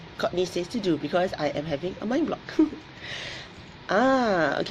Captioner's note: laughs